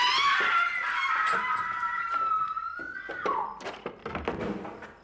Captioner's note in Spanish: Gritos